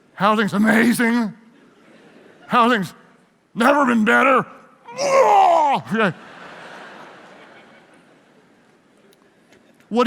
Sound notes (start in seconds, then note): 4.9 imitates throwing up; 6.0 audience laughs